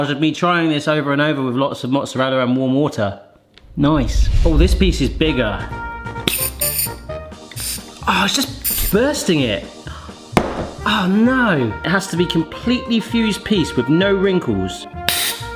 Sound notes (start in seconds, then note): 5.6 jaunty music; 7.4 gas hissing; 15.1 gas hissing